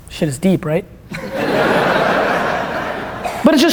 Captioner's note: audience laughter